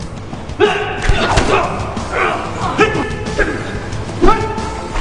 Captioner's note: melodic upbeat music; thudding blows; grunting